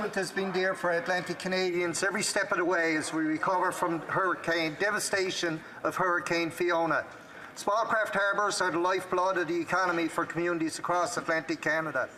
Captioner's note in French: voix de l'interprète